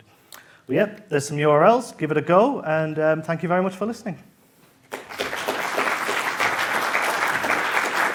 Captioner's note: applause